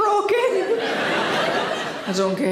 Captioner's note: audience laughter